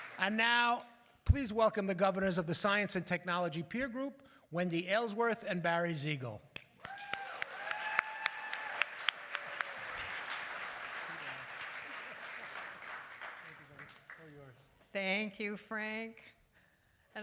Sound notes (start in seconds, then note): 6.7 applause